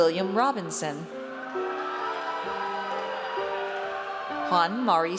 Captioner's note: audience cheers